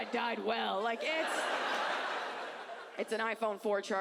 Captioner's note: audience laughs